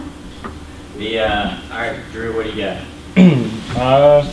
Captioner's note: voiceover